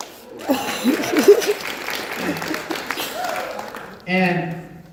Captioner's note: one person claps; audience applauds